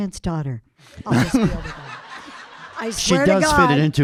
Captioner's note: audience laughing